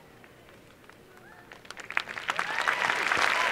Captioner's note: applause